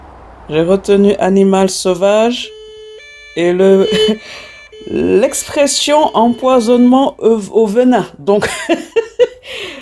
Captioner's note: laughs